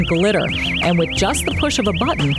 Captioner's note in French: alarm sound